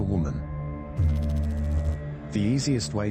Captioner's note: electrical noise